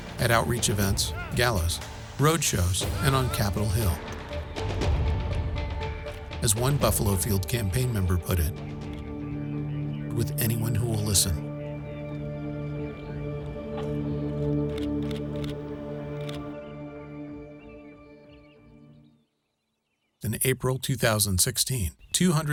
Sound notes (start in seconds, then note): 14.3 camera clicking; 18.2 birds chirping